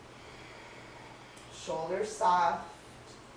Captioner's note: breathing sounds